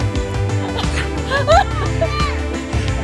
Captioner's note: laugh